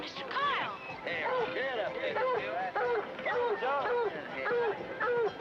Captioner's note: dogs barking